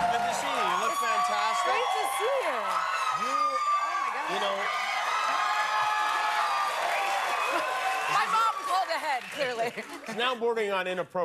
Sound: cheers and applause

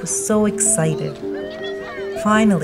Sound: cheering

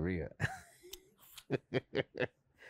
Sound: Spike laughs

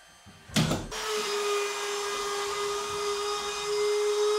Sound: saw buzzing

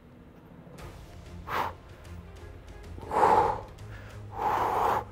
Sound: Gregg exhales rapidly

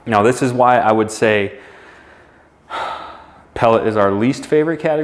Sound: exhales heavily

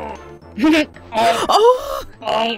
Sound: kremling grunt

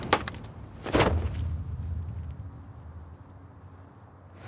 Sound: arrow clatters; crossbow clunking; body thudding

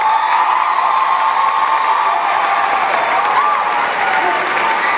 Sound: applause

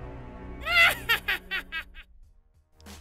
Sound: evil laughter

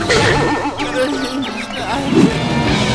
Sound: groaning

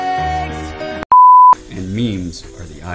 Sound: beep

